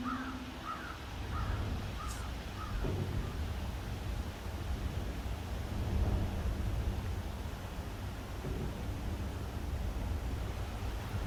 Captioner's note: natural sounds